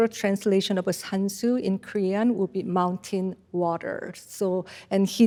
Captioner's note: speaks in Korean